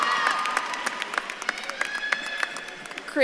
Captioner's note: audience claps and cheers